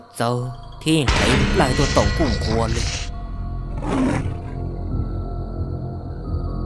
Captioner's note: licking sound